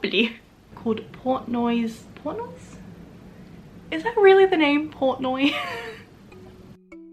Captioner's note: laugh